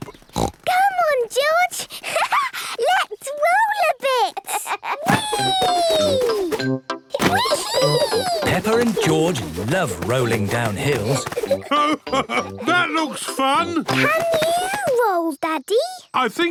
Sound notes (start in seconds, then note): 0.0 snorts; 4.0 laughs